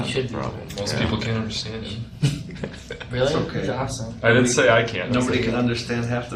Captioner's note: chuckles